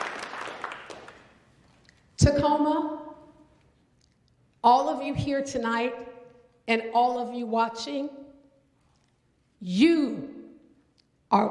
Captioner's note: applause